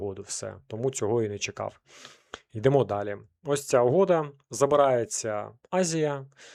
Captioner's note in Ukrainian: сопіння